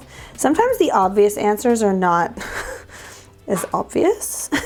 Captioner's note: chuckles